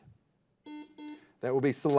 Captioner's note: buzzer dings